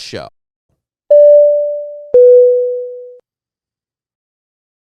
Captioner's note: ding dong